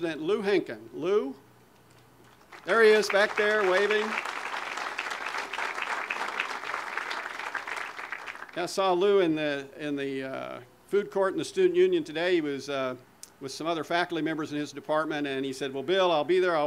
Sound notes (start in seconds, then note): 6.4 audience applause